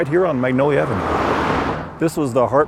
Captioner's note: car drives